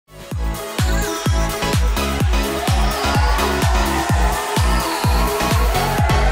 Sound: upbeat music; audience cheering

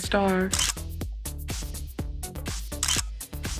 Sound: camera shutters

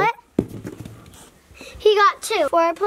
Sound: dice thuds

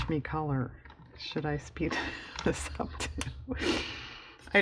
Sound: laughs

